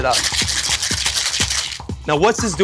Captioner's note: shaking